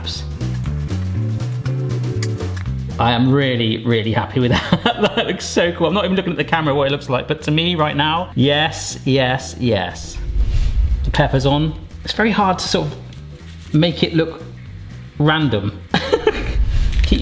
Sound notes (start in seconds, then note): 0.4 dramatic music; 4.9 laughs; 16.3 laughs